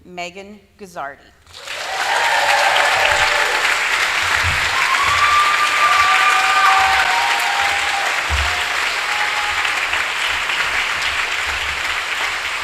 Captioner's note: applause